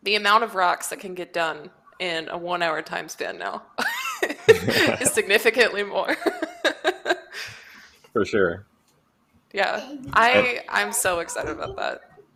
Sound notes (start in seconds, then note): 3.8 laughter